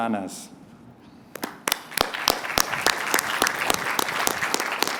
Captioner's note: applause